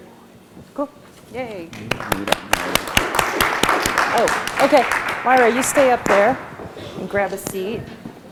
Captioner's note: applause